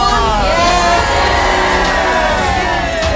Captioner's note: shouting